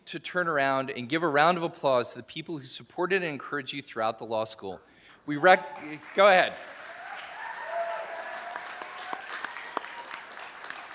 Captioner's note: applause